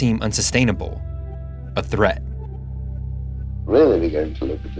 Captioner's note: soundbite of archived recording